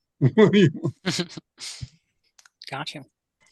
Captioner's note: both chuckles